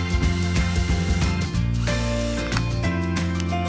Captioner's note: drill whining